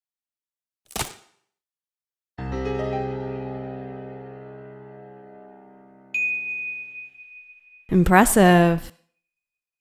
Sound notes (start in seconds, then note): 6.1 ding